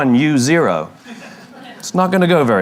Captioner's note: La audiencia se ríe